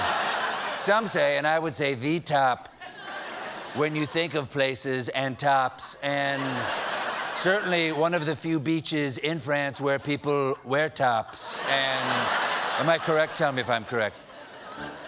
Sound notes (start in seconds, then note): 11.0 laughter; 14.8 piano riff